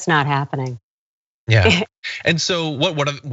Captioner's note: laugh